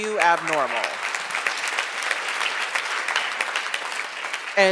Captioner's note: audience applauds